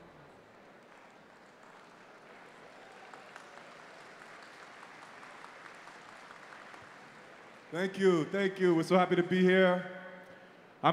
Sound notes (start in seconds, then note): 4.2 audience cheering